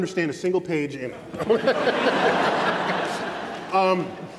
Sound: laughter

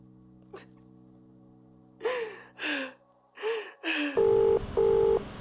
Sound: sobbing; phone ringing

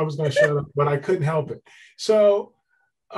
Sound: laughs

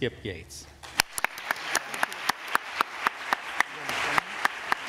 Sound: applause

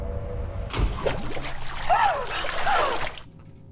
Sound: gasping; laughs

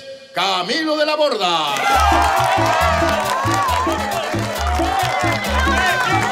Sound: applause

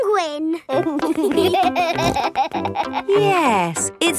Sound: laughing

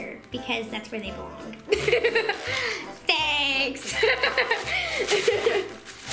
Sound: laughs

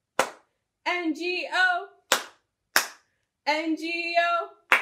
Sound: clap, clap

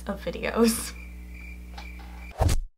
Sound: cricket cricket

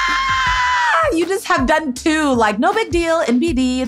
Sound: fake scream

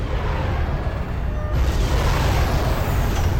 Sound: ENGlNE REVVlNG

